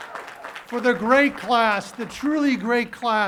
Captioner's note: cheering and applause